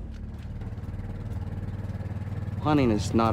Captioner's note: boat running